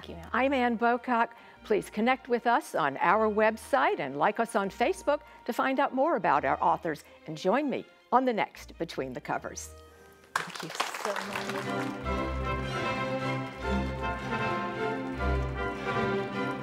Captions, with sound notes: - Thank you, Ann. - I'm Ann Bocock. Please connect with us on our website, and like us on Facebook to find out more about our authors and join me on the next Between the Covers. Thank you so much. (audience applauds) (classical music playing)